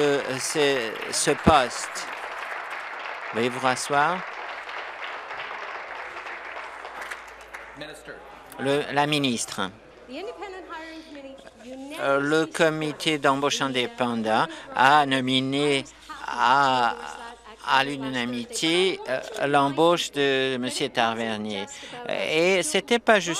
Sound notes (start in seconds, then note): 2.0 applause